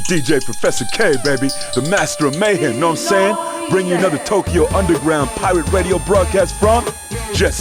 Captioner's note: game audio